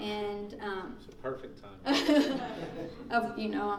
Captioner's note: laughing